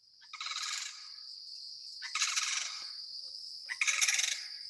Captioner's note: bird squeaking